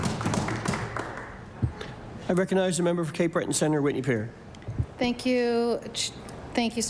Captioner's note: applause